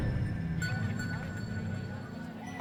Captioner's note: indistinct chatter